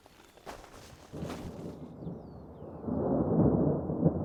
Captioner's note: thunder rumbling